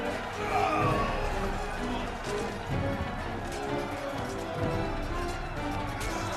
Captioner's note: dramatic music; crowd cheering; dramatic music